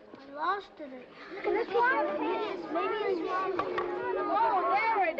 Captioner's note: children clamoring